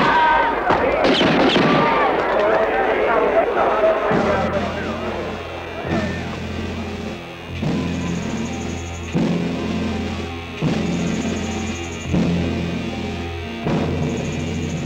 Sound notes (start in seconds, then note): 1.3 crowd yelling; 4.2 dramatic music